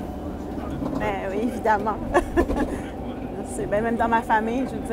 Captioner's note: small laugh